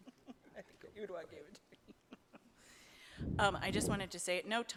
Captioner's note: laughing